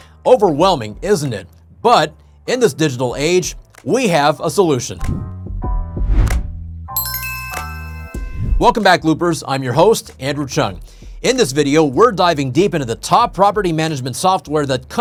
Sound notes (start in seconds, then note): 6.0 graphic whooshing; 6.9 soft chiming